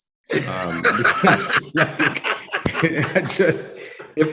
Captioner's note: panelists laughing heartily